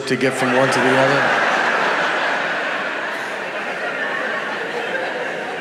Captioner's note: audience laughing